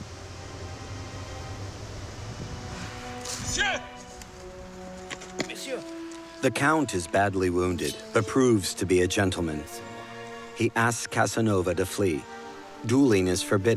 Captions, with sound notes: [exclaims in French] The count is badly wounded, but proves to be a gentleman. He asks Casanova to flee. Dueling is forbidden in Poland.